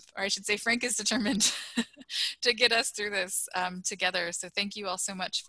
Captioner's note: laughter